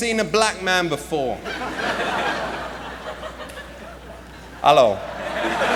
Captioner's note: laughter